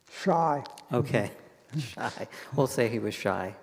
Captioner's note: chuckles